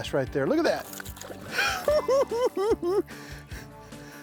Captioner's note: cackling